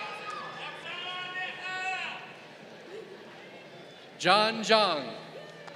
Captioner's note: crowd cheering; person in audience shouting